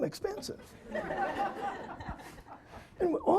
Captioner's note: audience laughing